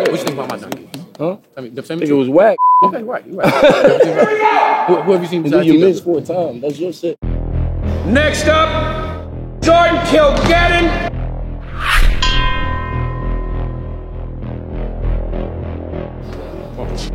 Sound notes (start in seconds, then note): 3.3 laughter; 11.8 ding; 13.8 tense music